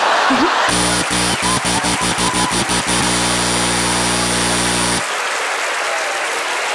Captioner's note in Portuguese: campainha e aplausos